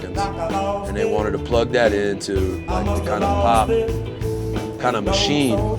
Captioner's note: murmurs